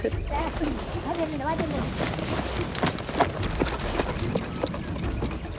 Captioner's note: speaking foreign language